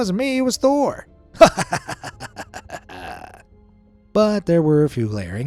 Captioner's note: narrator laughs